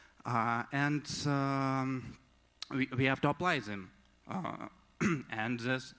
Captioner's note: clears throat